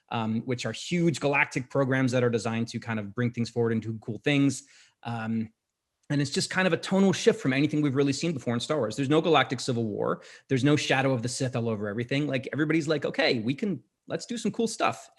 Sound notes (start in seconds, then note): none